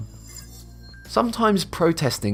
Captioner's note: futuristic ringing